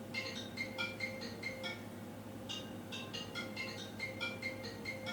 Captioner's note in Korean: 어디선가 울리는 핸드폰 벨소리